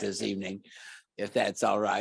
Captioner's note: laughter